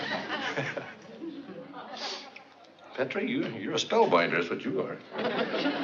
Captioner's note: laughs